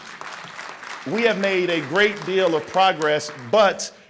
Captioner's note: applause